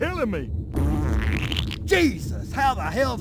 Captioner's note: fart